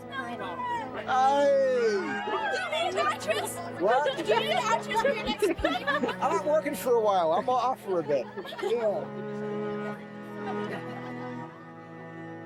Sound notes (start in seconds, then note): 2.4 girls shouting; 9.5 somber music